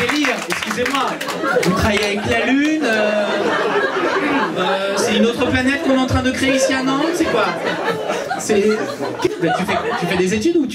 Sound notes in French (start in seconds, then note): 2.7 rires public; 7.6 rires public